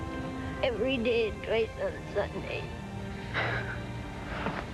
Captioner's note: crying